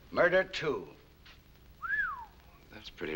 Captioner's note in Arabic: صافرات